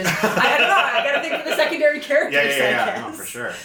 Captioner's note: laughs